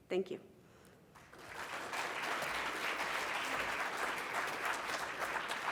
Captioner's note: congregation clapping